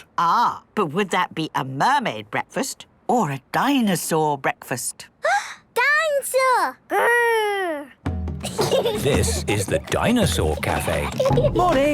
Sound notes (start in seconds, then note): 5.5 gasps; 8.4 children giggling